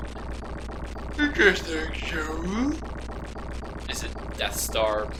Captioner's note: in a goofy voice